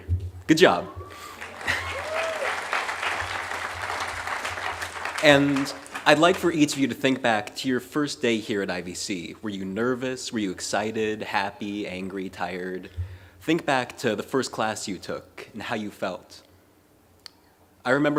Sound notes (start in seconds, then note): 2.9 applause